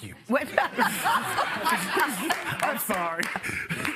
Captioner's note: laughter